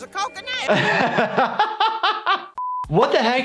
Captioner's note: laughs